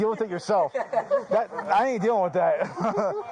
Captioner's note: laughs